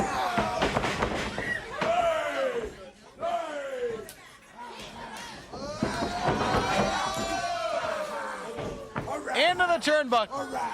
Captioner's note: crowd chatter